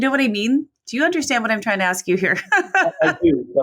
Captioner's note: laughs